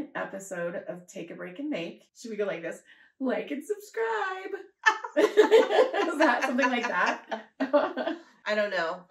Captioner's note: laughter